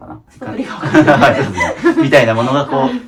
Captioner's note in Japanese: 笑い